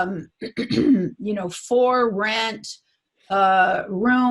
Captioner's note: clears throat